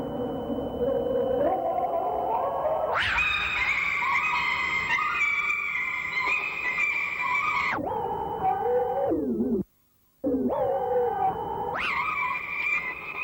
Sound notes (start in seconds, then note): 1.1 sped up speech